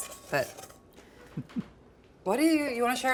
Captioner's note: laughing